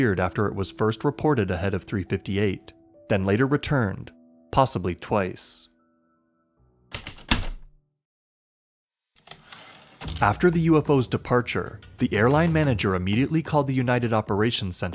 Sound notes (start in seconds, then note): 6.9 heavy typewriter keystrokes, typewriter return slide